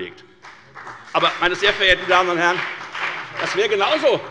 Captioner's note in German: Beifall bei der FDP